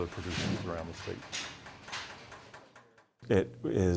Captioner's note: metal rattling